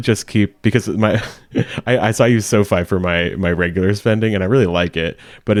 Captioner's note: laughs